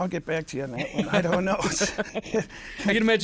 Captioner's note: both laughing